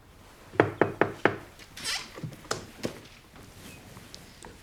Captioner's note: Hazel knocking